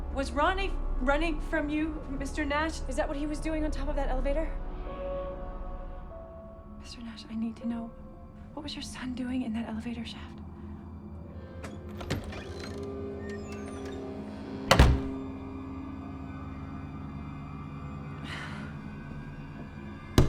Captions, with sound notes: Was Ronnie running from you, Mr. Nash? Is that what he was doing on top of that elevator? (eerie music) Mr. Nash, I need to know, what was your son doing in that elevator shaft? (eerie music) (door latch clicks) (door slams) (eerie music)